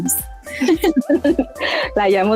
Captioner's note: laughing